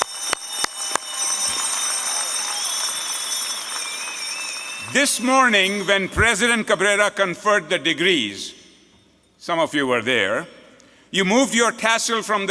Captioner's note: applause